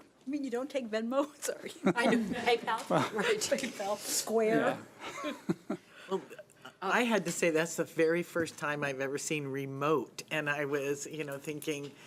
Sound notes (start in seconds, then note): 1.8 chuckling; 2.8 laughing; 5.0 chuckling